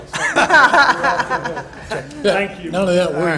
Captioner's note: board members chuckle